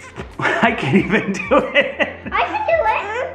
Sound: laughs

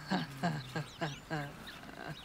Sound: surprised Giggle

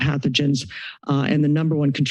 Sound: inhales

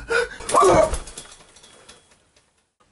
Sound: panicking; screaming and hitting the floor

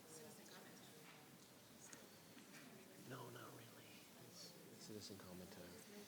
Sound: board members chattering

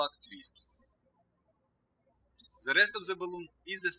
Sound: birds chirping

